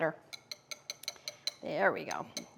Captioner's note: tapping